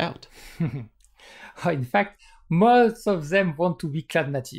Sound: chuckles

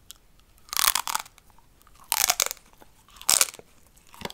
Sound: candy crunching

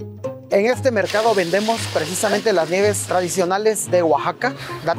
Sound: speaking in foreign language

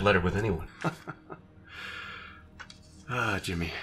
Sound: Evil Jimmy laughing

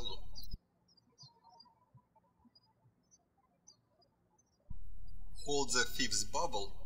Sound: bird chirping

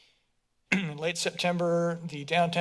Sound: clear throat

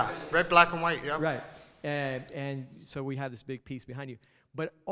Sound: voiceover

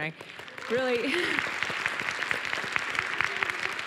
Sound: applause

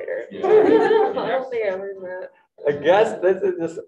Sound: group bursts into laughter

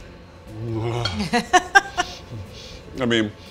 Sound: groaning; laughing

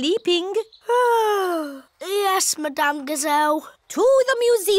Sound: yawns

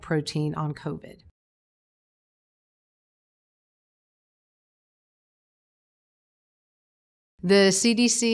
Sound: silence

